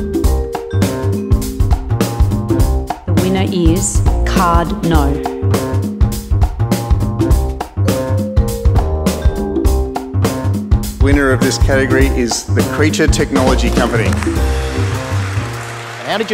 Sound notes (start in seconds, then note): 13.4 applause